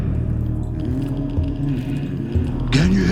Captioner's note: sensor crackles